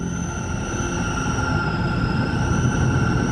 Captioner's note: wind howling